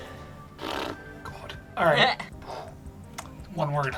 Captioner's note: blows raspberry